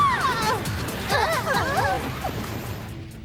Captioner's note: whoosh; screams